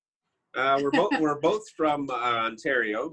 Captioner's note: chuckles